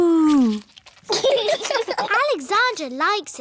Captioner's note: laughter